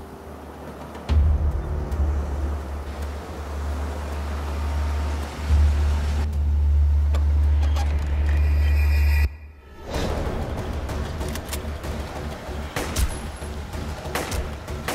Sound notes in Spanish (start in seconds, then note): 0.5 Sonido del carro